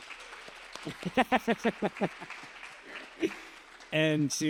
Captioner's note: applause; laughs